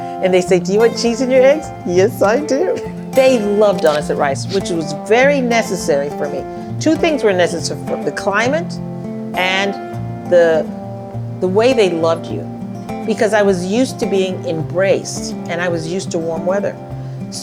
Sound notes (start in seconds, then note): 2.7 laughs